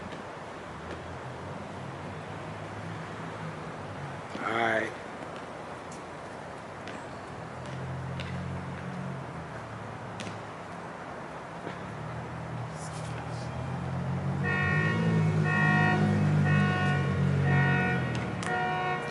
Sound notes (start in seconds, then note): 7.6 basket ball tapping; 7.6 motor engine revving; 15.2 car alarm blaring